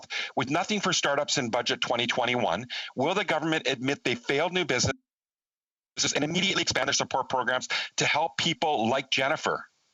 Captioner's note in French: voix de l'interprète